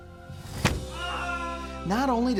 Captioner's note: window closes, Roy screams